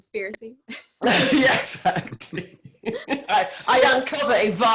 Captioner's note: laughing